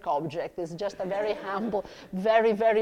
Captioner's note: audience laughs